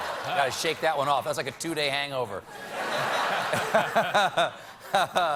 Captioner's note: laughter